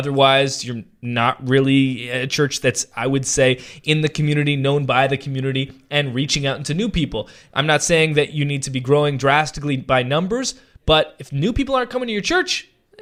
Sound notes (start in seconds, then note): none